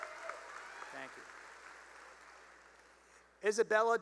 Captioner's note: cheering and applause; applause